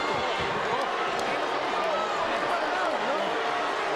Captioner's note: audience jeering